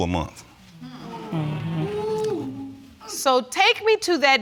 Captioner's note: audience exclaiming